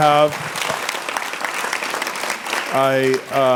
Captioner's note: applause